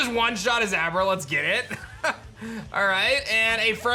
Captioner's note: chuckles